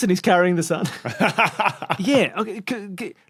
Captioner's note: laughs